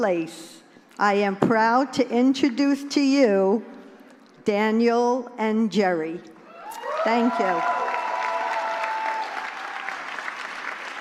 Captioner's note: applause